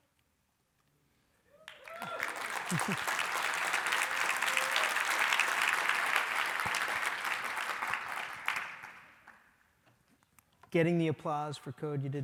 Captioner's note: applause